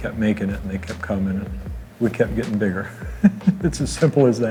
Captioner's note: laughs